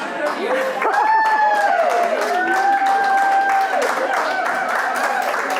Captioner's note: audience cheering and applauding